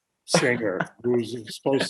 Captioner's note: laughing